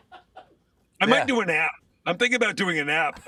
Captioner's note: laughter